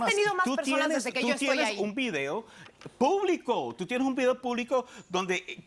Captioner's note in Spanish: Hablan al unísono